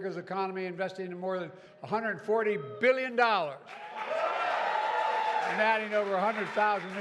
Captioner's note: applause